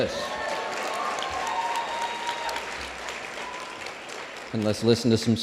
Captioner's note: applause